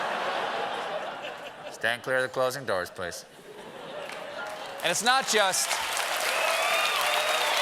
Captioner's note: cheers and applause